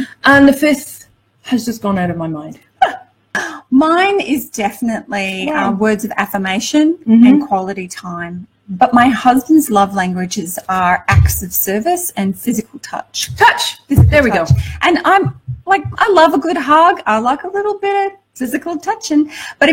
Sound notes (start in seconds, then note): 2.8 laughs